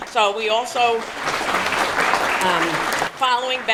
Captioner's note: applause